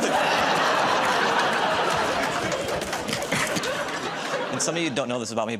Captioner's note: laughter